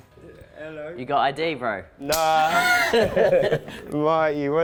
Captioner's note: both laugh